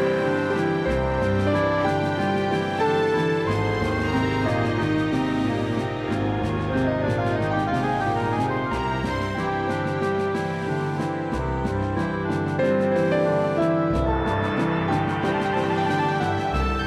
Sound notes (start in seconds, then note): none